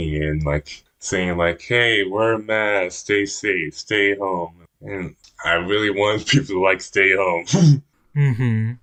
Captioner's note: laughs